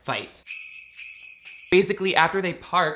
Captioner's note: bells jingle